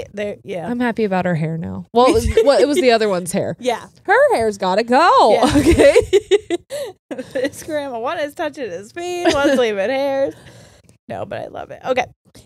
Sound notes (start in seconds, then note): 5.4 laughs